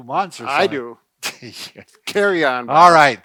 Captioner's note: chuckling